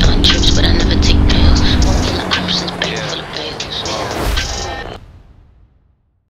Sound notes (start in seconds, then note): 4.6 radio static